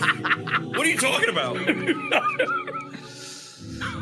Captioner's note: laughs; laughs